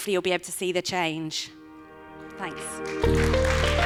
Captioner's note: applause